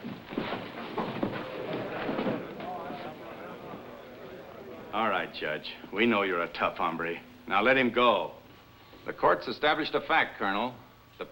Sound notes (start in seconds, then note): 2.8 thumps; 4.7 chairs scraping, chattering